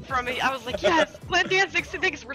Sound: laugh

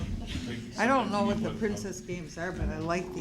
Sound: laughing

